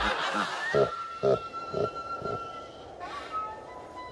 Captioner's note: laughter; low, distorted evil laughter